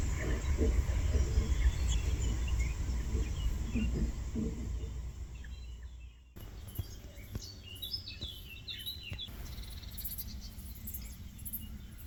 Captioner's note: nature sounds